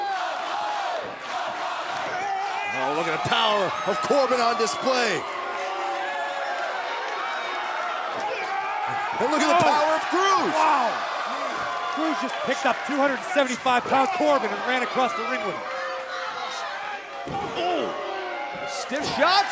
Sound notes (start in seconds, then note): 0.0 fans chanting